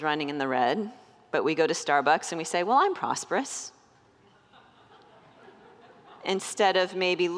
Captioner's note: congregants laugh